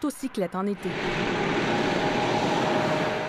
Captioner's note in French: vrombissement camion